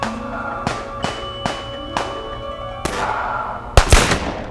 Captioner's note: laughing; guns firing; dramatic music